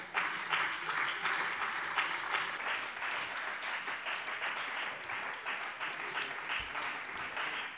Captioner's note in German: Beifall bei der CDU und dem BÜNDNIS 90/DIE GRÜNEN